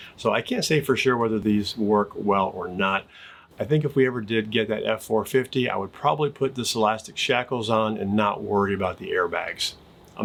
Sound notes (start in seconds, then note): none